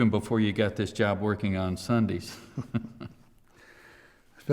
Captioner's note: chuckles